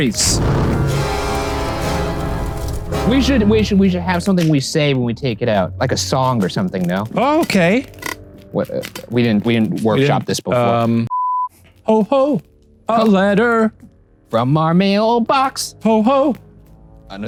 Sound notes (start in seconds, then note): 0.0 dramatic music; 11.1 beep